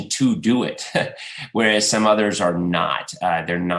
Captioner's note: laughs